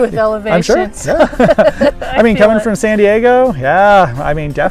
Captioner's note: laughter